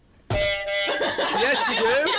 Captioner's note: buzzer